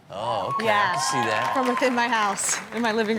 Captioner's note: audience cheers